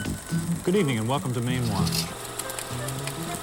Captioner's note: reel clicks; theme song continues